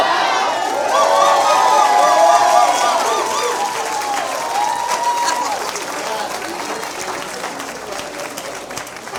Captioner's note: cheers